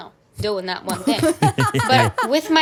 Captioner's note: laugh